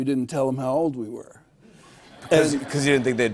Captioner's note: laughter